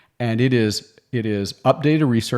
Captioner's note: none